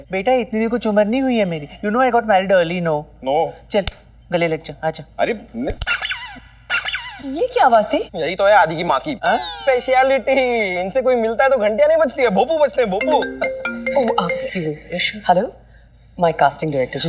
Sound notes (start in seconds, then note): 6.7 Squeaking; 13.0 Cell phone ringing